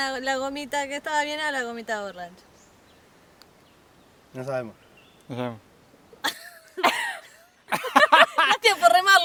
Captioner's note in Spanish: Risas